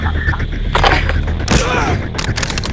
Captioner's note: crunch